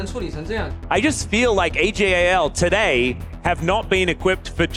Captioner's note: commentator in English